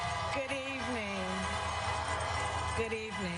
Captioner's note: horns honking